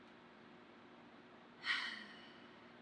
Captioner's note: sighs